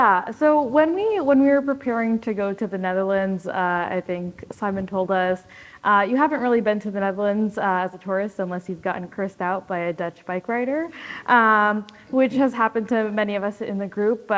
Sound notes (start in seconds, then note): none